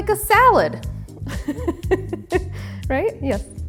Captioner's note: chuckles